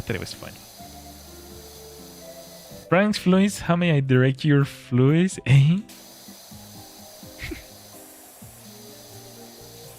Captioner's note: snorts